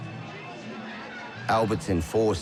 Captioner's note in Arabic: الناس يتحادثون